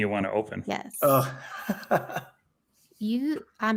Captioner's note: laughs